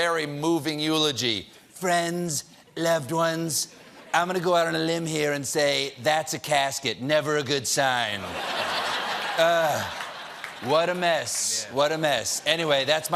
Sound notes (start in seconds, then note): 0.1 laughter; 10.9 laughter